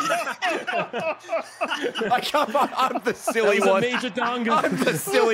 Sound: laughs

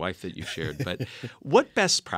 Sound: laugh

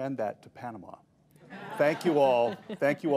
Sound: laughter

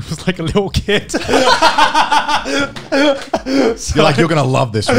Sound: group laugh

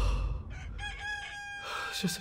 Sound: rooster crowing

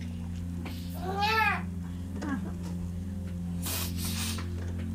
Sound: baby cries; sniffles

